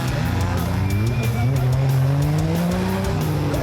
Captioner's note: cars speeding